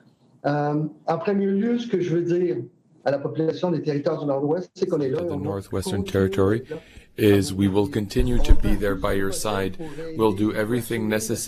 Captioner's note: speaking French